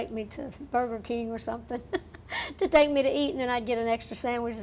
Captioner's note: laughing